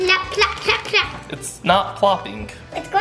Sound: none

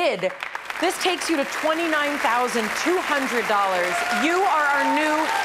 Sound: crowd clapping

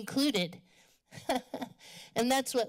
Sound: chuckles

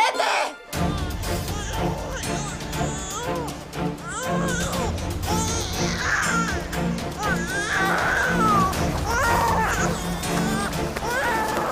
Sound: crying

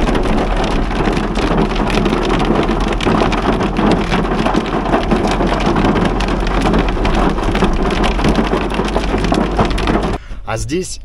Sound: sounds of hail

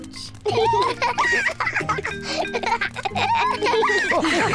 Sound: both giggle

